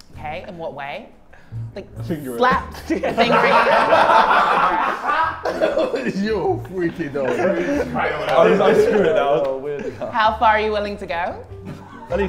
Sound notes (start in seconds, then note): 2.7 Sidemen laugh